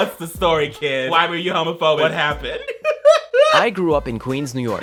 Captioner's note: laughs